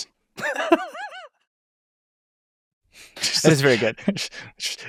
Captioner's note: laughs